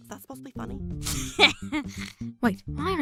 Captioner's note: snickers